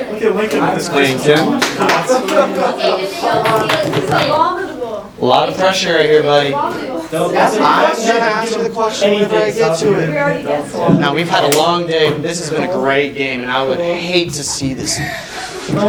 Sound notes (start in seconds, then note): 1.9 talking; 10.4 talking